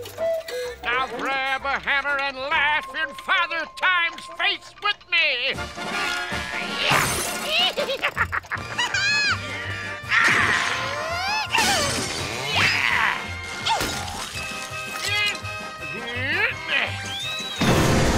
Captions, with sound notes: Now, grab a hammer and laugh in Father Time's face with me! [grunting] [laughing] [grunting] Yeah! [grunting] [groaning]